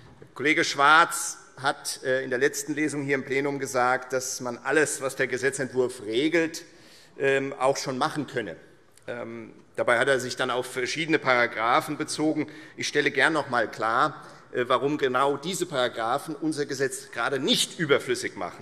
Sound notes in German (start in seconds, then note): none